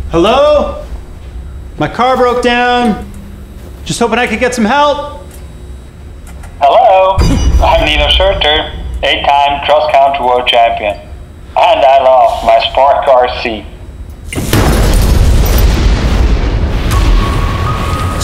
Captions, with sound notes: - Hello? My car broke down. Just hoping I could get some help. - Hello. I'm Nino Schurter, 8 time, Cross Country World Champion. And I love my Spark RC. (explosion) (scary music)